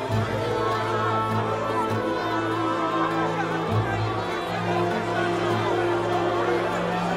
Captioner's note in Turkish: Kalabalık bağrışma sesleri